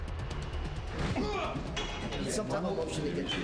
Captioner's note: groans